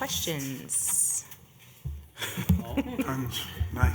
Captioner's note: laughter